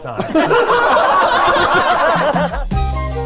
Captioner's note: all laughing; pleasant music